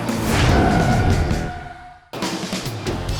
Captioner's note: tire screech